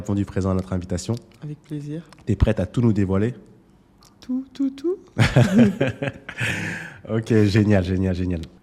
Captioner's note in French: rires